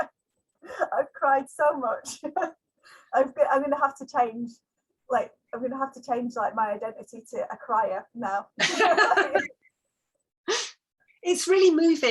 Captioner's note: laughs